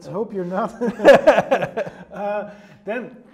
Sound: both laugh

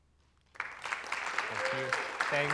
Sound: applause

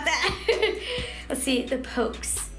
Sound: laughing

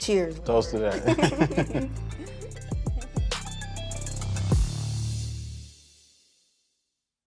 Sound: both laughing

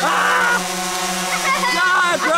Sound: shouts; drone blades whirring

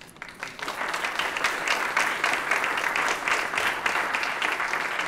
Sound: applause

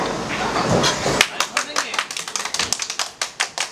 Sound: clapping like a seal

